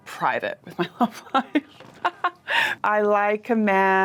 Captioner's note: laughs